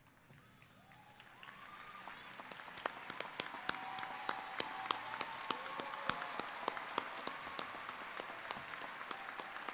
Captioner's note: applause